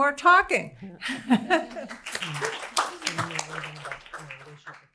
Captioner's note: laughter, applause